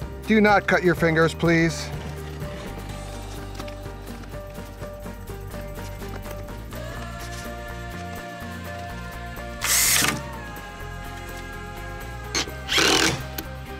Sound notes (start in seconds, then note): 2.8 upbeat music; 9.7 drilling